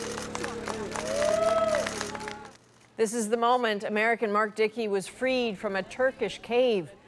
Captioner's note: applause